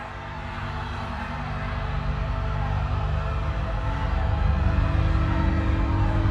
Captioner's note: people screaming; soft tense music